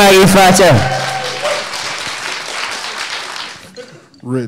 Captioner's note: audience cheering